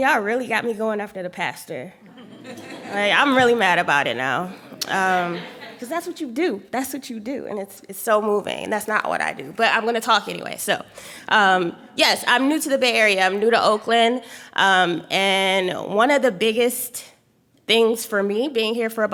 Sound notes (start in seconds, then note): 2.1 laughing